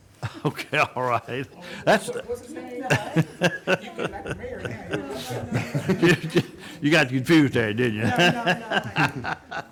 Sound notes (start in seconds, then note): 1.2 laughs; 2.9 man laughing; 7.7 laughs